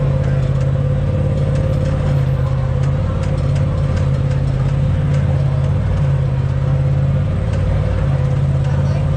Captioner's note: engine revving